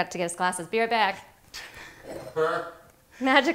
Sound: laughing

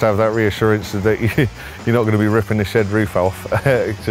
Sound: nevetés

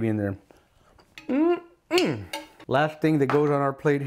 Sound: spoon clatters

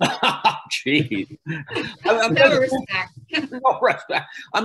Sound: laughs; laughs

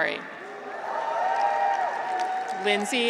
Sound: graduates cheer

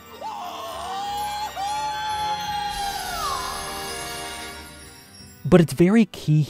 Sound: insert moans

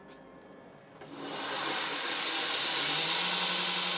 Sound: the grinder whirrs

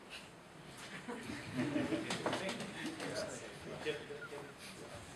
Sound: people chuckling

